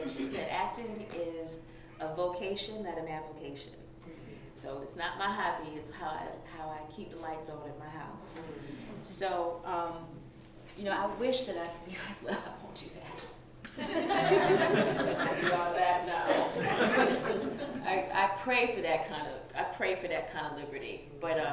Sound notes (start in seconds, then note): 13.6 laughter